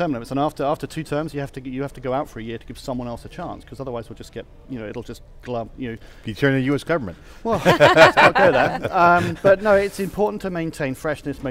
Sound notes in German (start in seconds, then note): 7.5 lacht